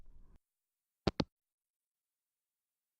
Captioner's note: hangup